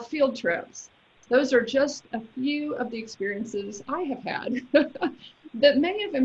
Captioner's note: laughs